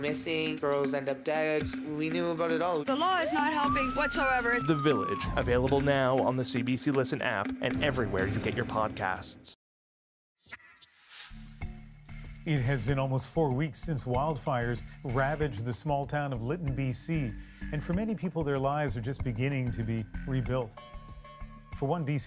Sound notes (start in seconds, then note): 3.4 sirens